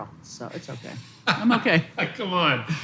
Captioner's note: laughs